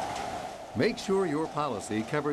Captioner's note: hurricane winds blowing